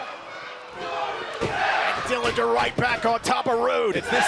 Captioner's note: crowd chatter